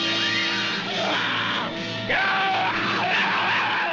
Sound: yelling; screaming

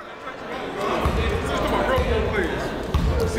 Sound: chatter

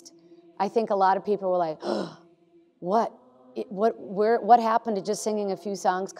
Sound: gasps

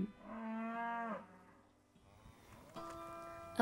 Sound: cows mooing

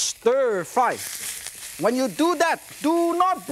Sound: meat sizzles

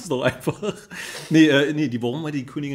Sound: laughs

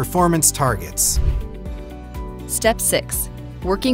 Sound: air whooshes

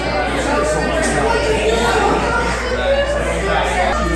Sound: crowd talking

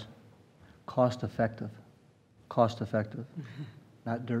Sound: laughter

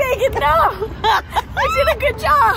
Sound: laughing

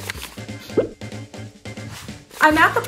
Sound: popping

